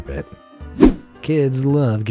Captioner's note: air whooshing